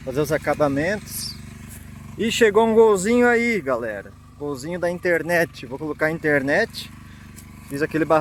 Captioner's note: car